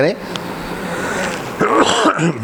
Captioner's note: coughs